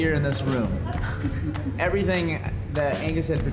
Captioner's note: chuckling